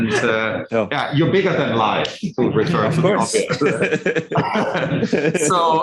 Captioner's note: indistinct conversation